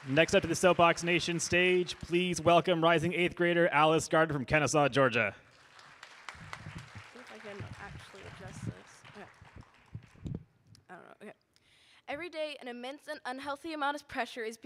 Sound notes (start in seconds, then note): 5.4 audience applauding